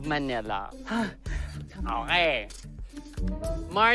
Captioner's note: sighs